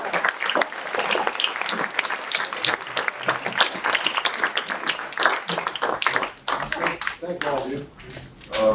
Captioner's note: applause